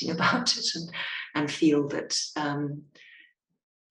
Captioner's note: chuckling